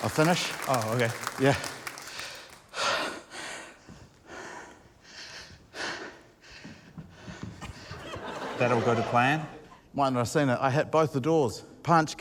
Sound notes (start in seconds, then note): 3.5 pants loudly